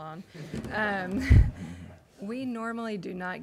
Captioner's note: laughing